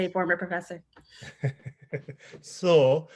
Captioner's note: laughing